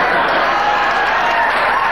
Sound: audience laughing

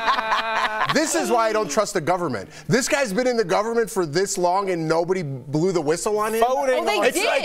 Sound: laughter

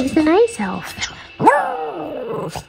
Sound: howl

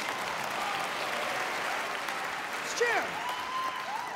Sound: cheers and applause

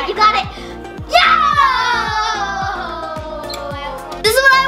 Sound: all shouting

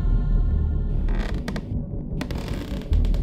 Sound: floorboard creaks

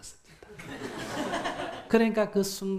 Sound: audience laughs

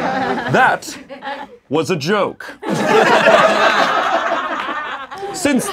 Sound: laughing

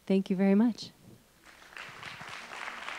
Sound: applause

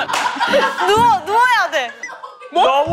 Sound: laughing

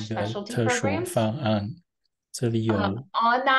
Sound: interpreter speaking in foreign language

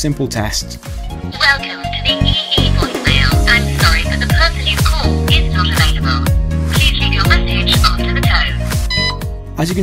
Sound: voice on the phone

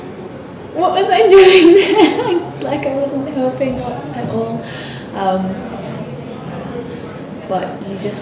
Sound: laughter

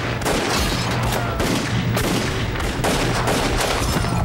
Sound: gun shots firing

